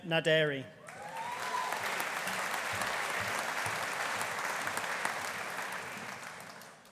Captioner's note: audience applauding; audience cheering